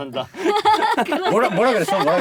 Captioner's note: laughter